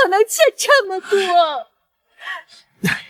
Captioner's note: sigh